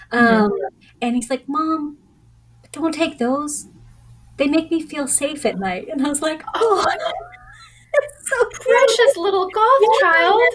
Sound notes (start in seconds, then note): 6.6 laughter